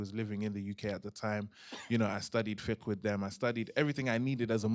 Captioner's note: non-english